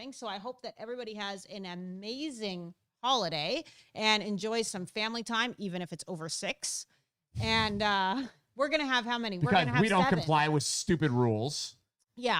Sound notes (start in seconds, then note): 7.4 chuckles